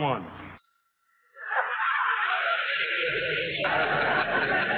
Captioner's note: audience laughing